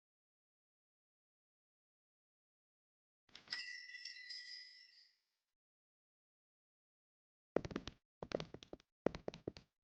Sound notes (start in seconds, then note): 3.5 ding Ding